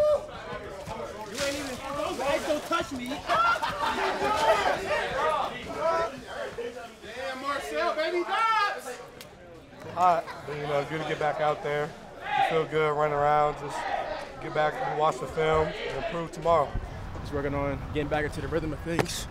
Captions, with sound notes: (laughter) - You know, it's good to get back out there. It feel good running around. Just get back and watch the film and improve tomorrow. - Just working on getting back into the rhythm of things.